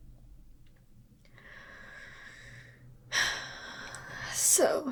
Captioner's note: sigh